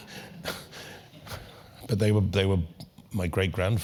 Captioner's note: laugh